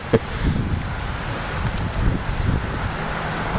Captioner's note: wind & Cricket Noises; laugh